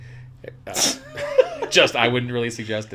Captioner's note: laughs